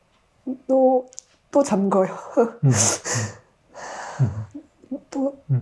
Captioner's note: laughing, sobbing